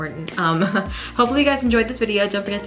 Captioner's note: laughs